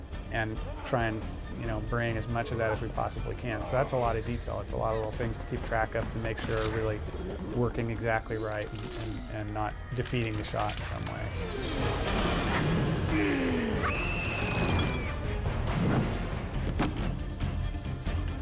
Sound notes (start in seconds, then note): 13.1 screaming